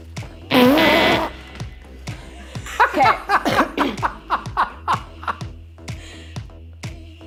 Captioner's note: laughing